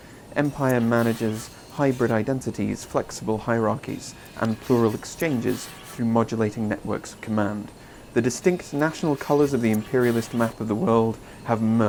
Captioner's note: british male voice over